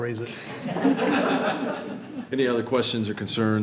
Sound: attendees laughing

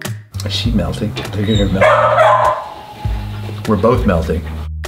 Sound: dog barking

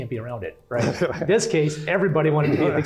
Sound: laugh

